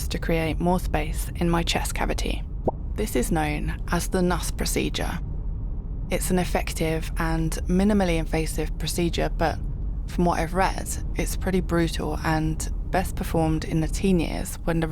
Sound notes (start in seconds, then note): 2.5 pop